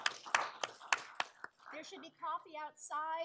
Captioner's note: applause